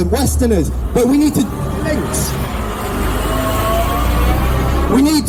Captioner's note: traffic noise